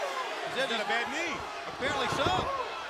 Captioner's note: crowd chatter